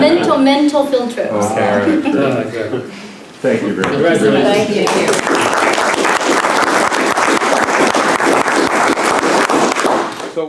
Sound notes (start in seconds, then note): 4.8 applause